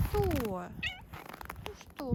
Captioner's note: meows in Russian